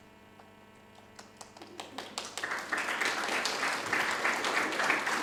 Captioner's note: audience applauding